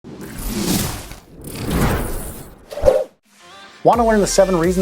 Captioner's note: air whooshing